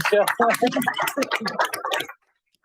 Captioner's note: applause